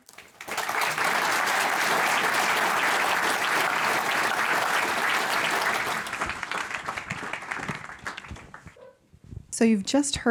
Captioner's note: applause